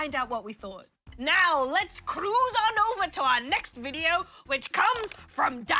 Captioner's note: imitates pirate